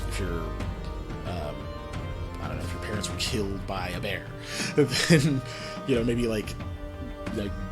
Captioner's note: laughs